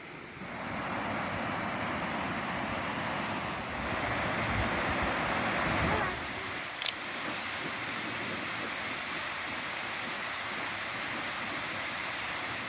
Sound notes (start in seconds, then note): 2.6 loud waterfall